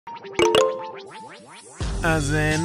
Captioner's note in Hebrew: צליל נוטיפיקציה על רקע מוזיקה קצבית